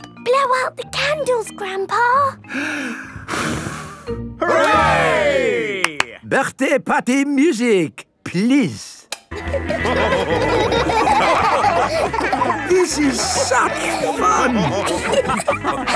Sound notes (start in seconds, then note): 2.4 breathes deeply, blows; 5.8 claps; 9.3 dance party music; 14.9 laughing